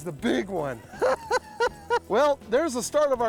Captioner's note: cackling